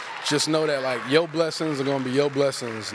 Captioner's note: applause